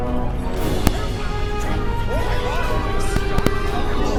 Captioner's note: group screaming